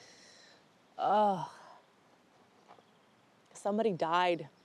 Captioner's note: Alice groans